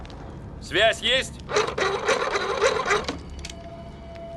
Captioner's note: sound of cable box